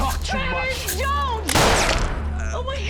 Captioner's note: gunshot